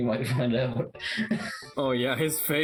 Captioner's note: chuckles; chuckling